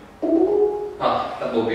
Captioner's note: notification ringing